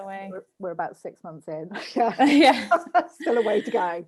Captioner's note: laughs